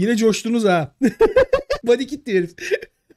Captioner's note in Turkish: Gülüşmeler